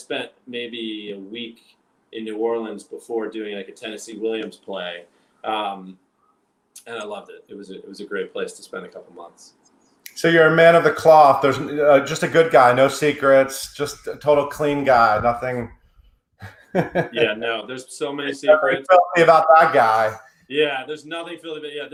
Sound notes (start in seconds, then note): 16.4 chuckles